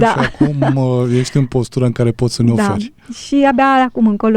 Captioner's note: laughter